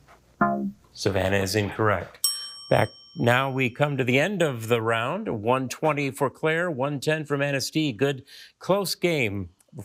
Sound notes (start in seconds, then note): 0.4 womp chimes; 2.2 bell dings